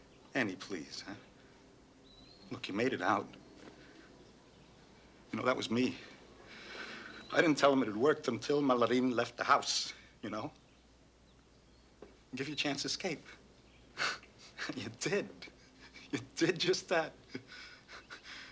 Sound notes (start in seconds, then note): 6.4 exhales sharply; 14.0 chuckles